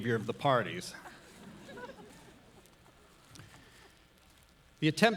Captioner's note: audience laughs